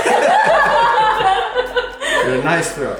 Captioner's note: laughing